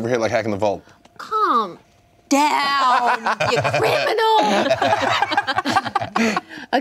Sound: laughing

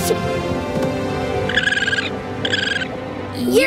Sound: chirping

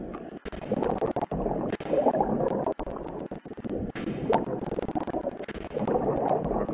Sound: sound of submarine

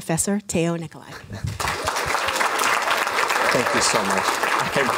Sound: applause

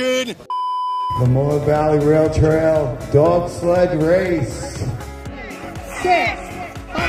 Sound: long beep; loudspeaker voice

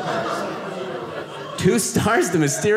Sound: audience laughing

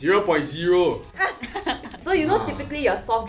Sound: laughing

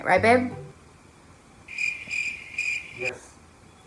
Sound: crickets chirp

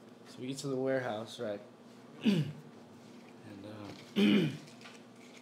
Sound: clears throat

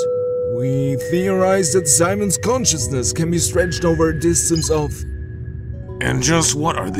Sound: drone beeps

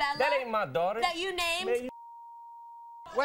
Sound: beeping

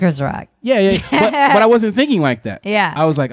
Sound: laughing

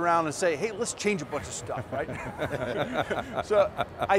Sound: all laugh

